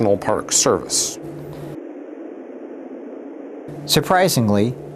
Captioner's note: wind rustling continues